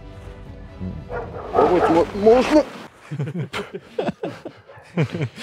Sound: laughing

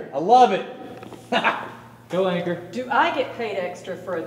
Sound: laughing

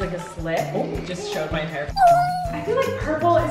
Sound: cat meows

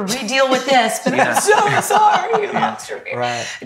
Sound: laughs

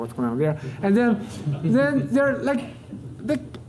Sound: audience laughter

